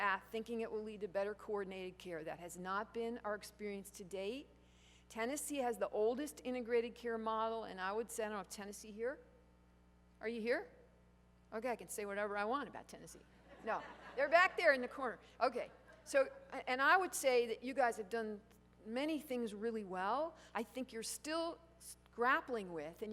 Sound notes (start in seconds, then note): 13.3 laughter